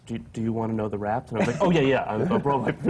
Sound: laughs

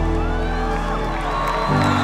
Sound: crowd Cheering

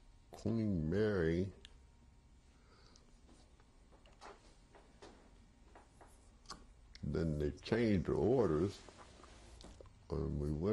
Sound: pauses for 6 seconds

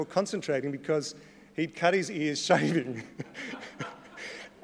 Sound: laughs

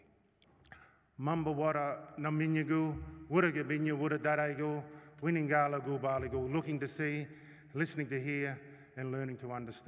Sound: non-english speech

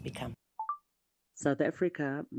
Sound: recorder beeping

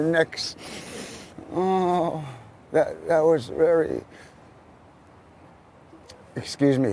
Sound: sniffs

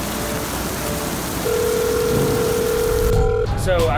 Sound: phone line rings

